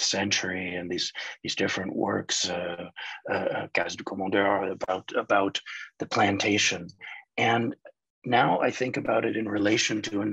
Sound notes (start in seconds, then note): 1.9 speaking in foreign language